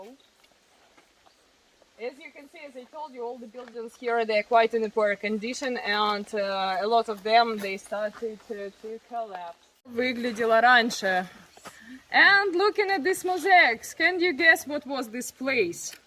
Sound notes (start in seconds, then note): 9.8 speaking in the Ukrainian language